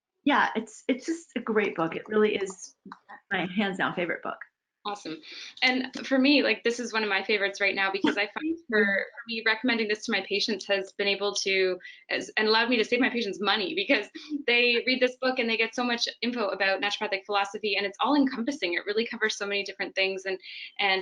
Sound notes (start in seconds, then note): 8.0 chuckles